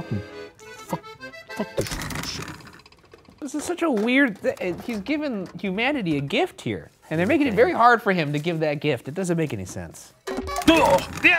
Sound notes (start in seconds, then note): 1.8 curtain rattles